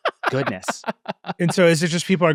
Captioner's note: laughing